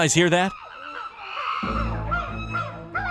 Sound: animals chattering; upbeat tense music begins

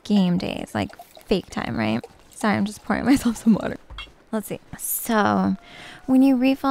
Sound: sound of a water glass being refilled

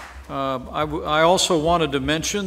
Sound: applause

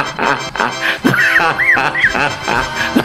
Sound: laughs

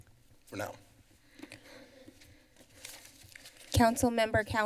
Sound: silence

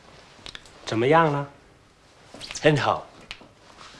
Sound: speaking Chinese

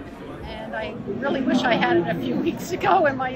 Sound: laughing

